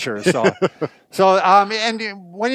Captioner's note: laughing